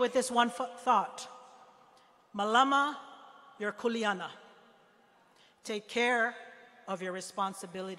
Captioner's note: speaking hawaiian